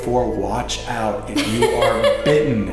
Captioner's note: laughs